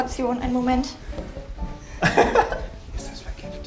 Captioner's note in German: Gelächter